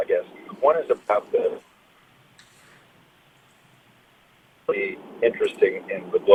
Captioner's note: audio cuts